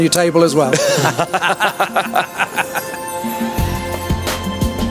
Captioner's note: both laughing